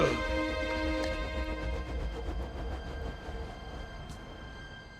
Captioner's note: groaning; whirring